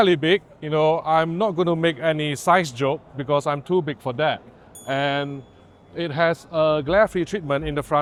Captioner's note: ding